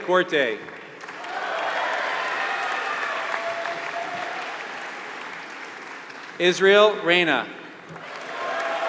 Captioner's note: applause